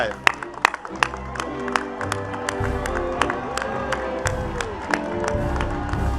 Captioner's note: attendees cheering and clapping; gentle instrumental music